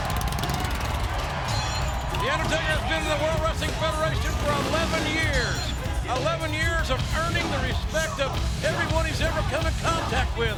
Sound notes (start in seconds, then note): 0.2 crowd cheering; 0.2 motorcycle engine revving; 1.1 steel clanging